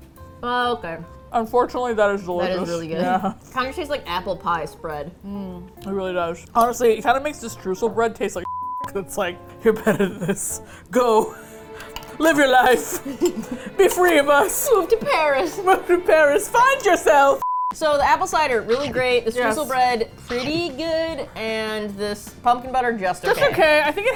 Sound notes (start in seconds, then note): 2.7 laughs; 9.6 dramatic music; 12.9 laughs